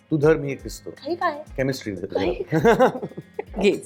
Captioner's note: chuckles